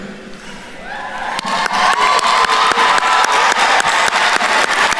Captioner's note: attendees applauding